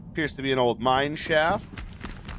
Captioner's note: fire crackles